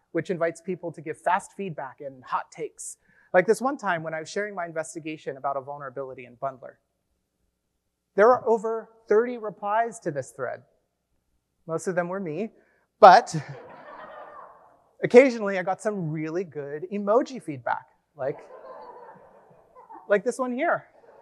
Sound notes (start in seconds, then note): 13.4 audience laughs; 18.2 audience laughs